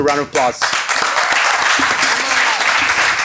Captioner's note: applause